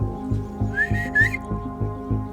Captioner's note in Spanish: Silbidos